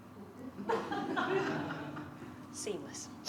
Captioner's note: laughter